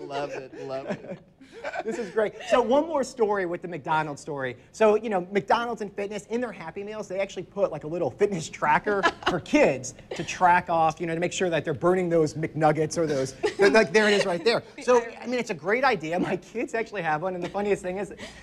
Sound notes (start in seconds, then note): 0.0 laughs; 3.2 laughs